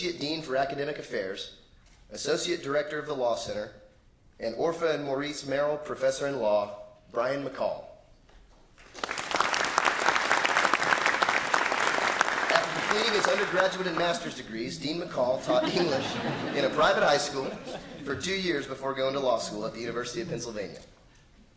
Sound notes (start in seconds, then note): 8.8 applause; 15.3 laughter